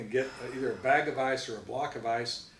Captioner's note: sighs